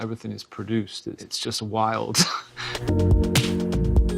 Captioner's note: chuckling; experimental dance music